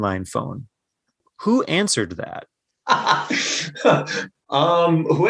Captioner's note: laughter